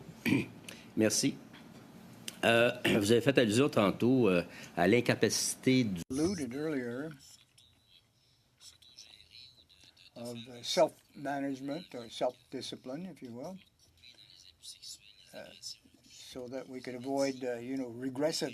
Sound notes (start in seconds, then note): 5.1 speaking French